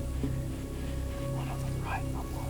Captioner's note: whispering